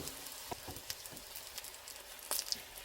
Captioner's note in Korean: 지글지글